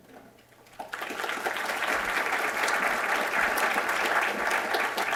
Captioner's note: applause